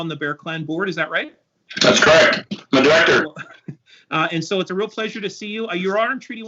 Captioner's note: audio echo